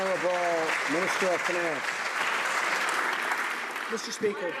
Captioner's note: some Applause